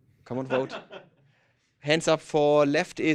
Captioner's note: laughter